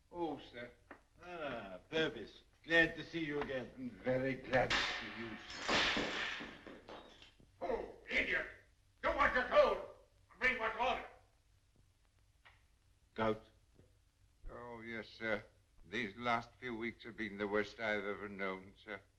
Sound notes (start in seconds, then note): 6.1 shattering